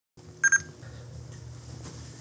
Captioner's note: bebeep